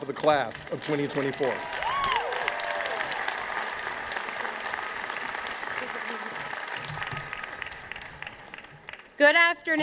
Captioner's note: applause